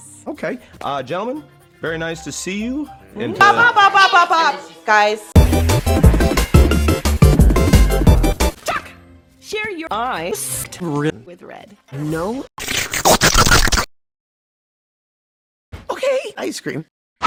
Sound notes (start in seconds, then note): 12.6 loud slurping